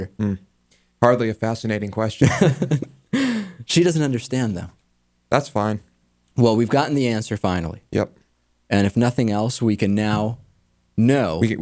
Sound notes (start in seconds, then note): 2.2 laughs